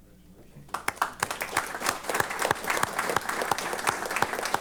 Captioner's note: applause